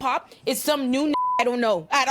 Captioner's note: beep